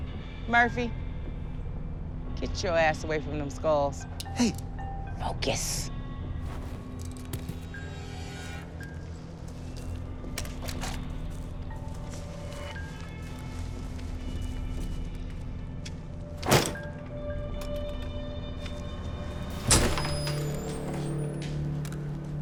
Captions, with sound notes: - Murphy, get your ass away from them skulls. - Hey. - Focus. [suspenseful music] [door opens]